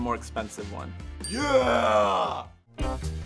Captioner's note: dinging; quick jazzy music